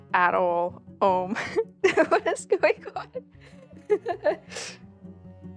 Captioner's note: laughs